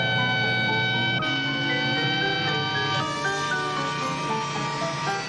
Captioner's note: siren